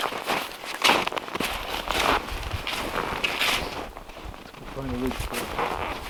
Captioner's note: footsteps crunching